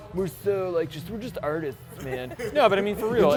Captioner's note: sarcastically